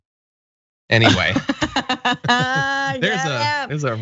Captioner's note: laugh